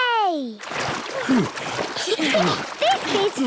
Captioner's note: panting; snorts, giggles